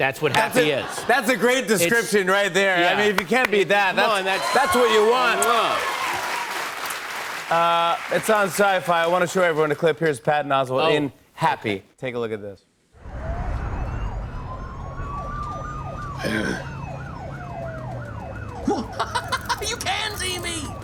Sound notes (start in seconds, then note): 4.0 cheers and applause; 13.0 siren wails; 18.6 laughing